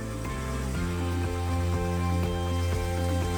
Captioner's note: bright upbeat music; saw buzzing